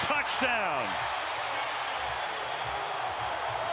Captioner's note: crowd cheering